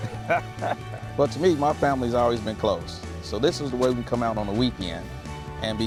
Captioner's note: laughter